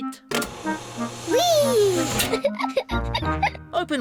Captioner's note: giggles